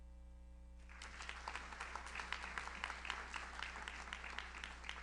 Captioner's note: audience applauds